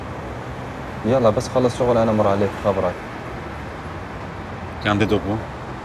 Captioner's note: in arabic